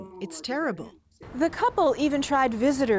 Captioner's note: speaking French